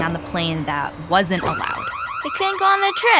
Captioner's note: alarm blares